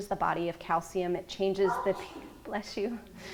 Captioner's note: audience member sneezing